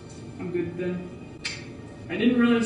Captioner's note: clicks tongue